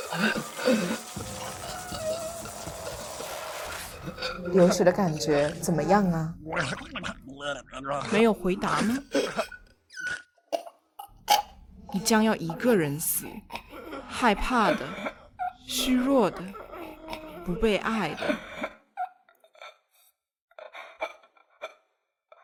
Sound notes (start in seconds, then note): 0.2 choking and gurgling; 5.8 Mandarin language; 6.6 gurgling; 8.8 Mandarin language; 9.4 bloody gurgling; 12.7 Mandarin language; 14.7 Mandarin language; 18.0 Mandarin language; 19.3 choking and gurgling